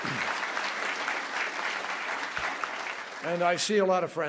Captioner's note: applause